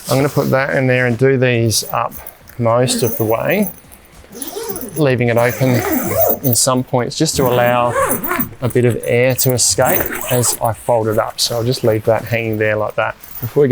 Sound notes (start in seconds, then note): 5.3 zipper hissing